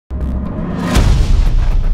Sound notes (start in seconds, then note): 0.5 sound of an Explosion